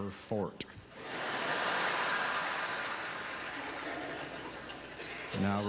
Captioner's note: audience laughter